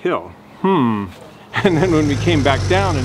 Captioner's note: engine roaring